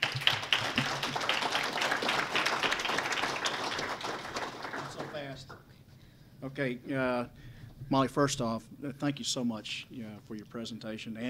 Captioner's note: applause